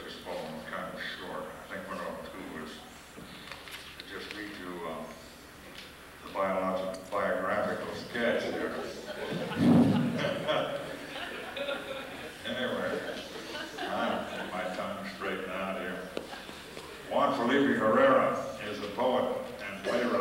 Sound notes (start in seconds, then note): 8.4 laughter